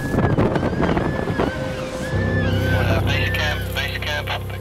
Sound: penguins cawing

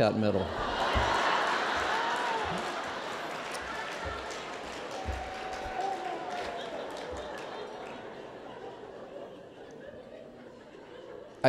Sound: laughter

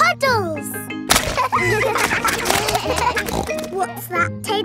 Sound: kids laughing; snorts

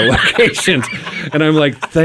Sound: group laughing

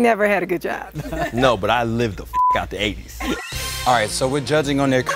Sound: laugh

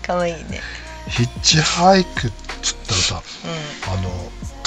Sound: laughs

